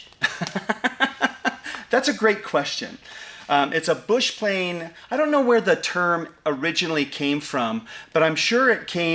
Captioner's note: laughs